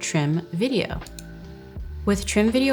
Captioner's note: computer mouse clicking